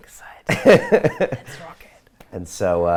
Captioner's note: laughs